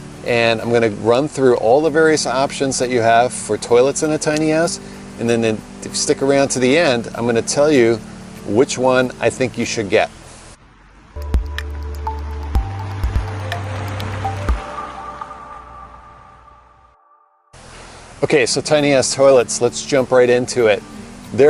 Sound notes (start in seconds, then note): 11.2 bright music; 11.2 whooshing